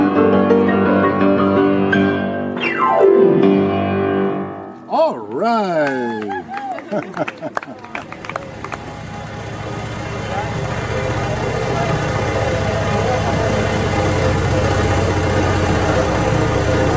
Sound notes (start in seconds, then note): 11.8 bulldozer machine at work